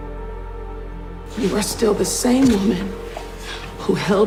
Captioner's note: voiceover